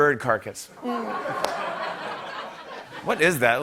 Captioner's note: laughter